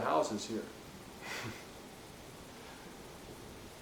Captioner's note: scoffs